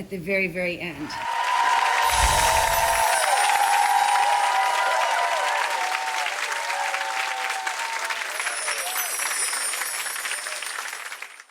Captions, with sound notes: at the very, very end. (applause)